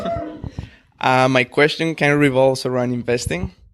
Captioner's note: hooting